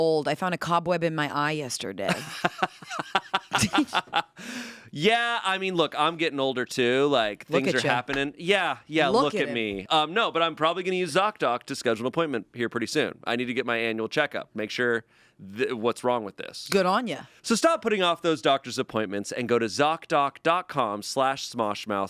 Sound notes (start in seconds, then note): 2.1 laughs